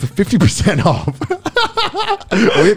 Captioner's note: laughing